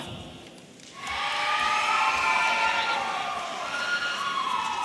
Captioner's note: audience cheering